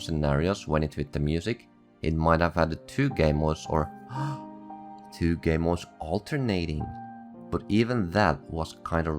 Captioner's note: gasp